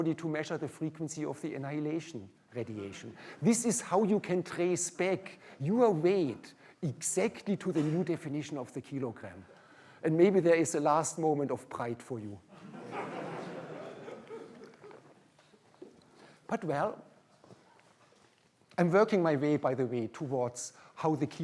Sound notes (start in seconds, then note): 12.5 laughter